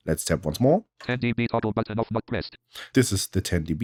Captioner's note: automated voice